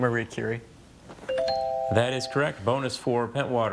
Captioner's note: tone chimes